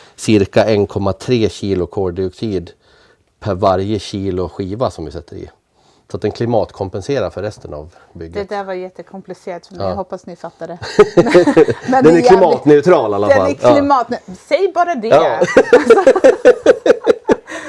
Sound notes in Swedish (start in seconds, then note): 10.8 skratt; 15.4 skratt